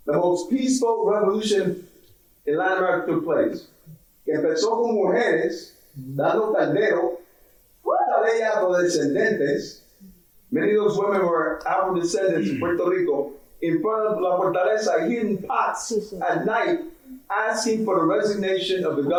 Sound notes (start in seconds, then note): 4.9 speaking in foreign language